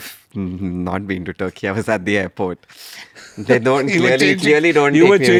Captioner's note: laughs